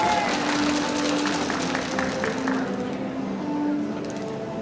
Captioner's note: audience applauding